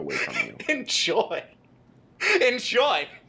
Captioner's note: chuckling